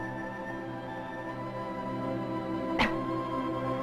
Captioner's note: coughing